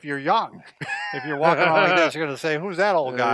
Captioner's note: laughing